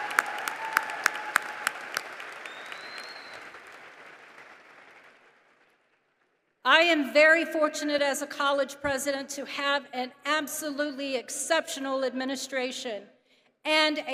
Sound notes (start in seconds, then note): 4.5 applause